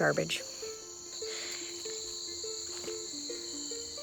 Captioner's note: crickets